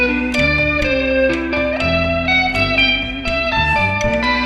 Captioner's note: humming continues